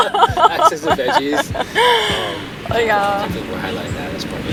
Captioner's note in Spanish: risas